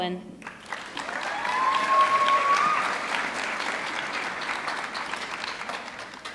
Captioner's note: audience clapping; audience cheering